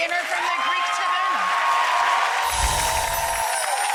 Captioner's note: applause